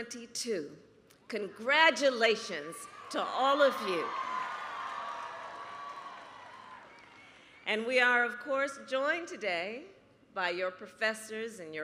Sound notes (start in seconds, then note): 3.8 applause